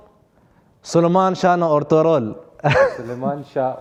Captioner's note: Turkish